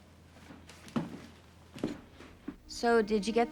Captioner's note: footsteps thudding